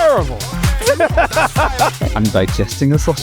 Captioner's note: laughs